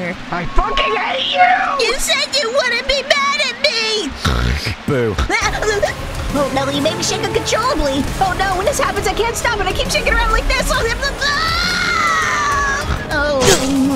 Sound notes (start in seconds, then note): 4.2 snort; 11.2 screams